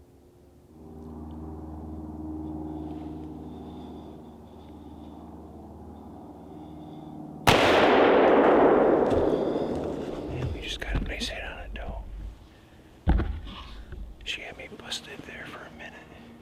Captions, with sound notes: (helicopter flying) (gun shot) We just got a nice hit on a doe. She had me busted there for a minute.